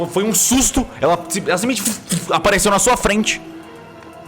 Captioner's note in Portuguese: vush vush